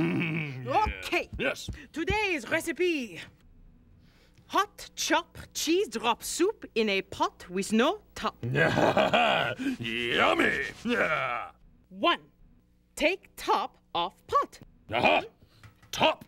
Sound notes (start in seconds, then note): 3.2 Cleo reading aloud; 8.4 chuckles hungrily